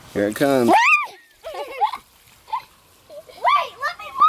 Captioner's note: laughing